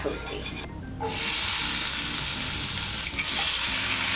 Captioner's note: sizzling sound